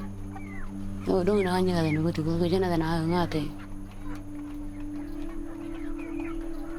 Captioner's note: speaking in foreign language